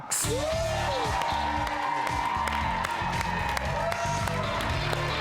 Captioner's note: audience clapping and cheering